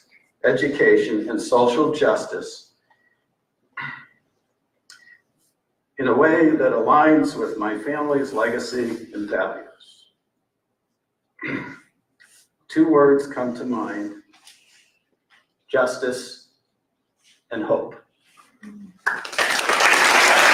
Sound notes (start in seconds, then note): 19.0 applause